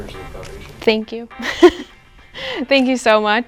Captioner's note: giggles